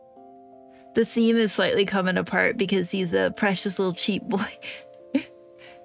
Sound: laugh

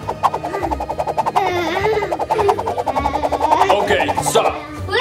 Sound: children whooshing

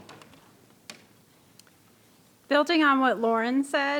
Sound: clicking

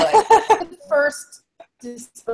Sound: laughs

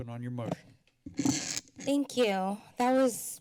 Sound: mic rustling

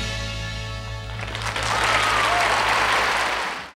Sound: audience applauding

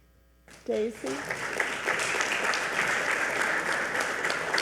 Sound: audience applauds

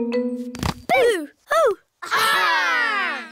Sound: gasps

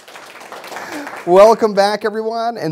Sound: applause

